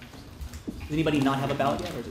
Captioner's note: none